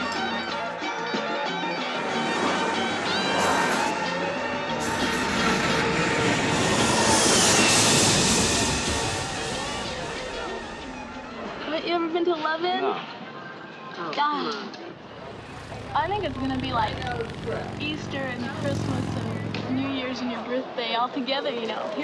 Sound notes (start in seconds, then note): 0.5 chaotic music; 1.9 traffic roars; 8.3 plane whines